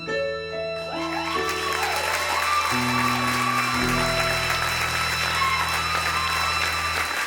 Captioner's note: audience applause